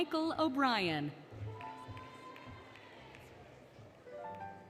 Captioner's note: applause, Cheering, Music